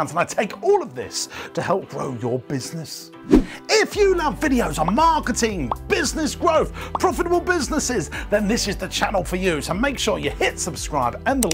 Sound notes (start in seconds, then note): 4.6 bubbles popping